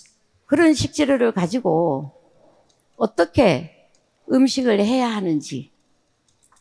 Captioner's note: speaking in foreign language